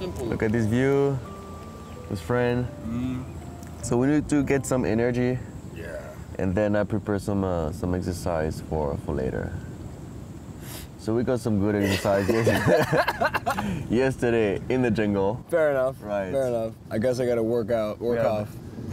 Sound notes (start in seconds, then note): 11.8 laughs